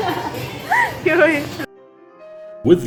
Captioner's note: laughs